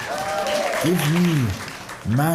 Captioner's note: applause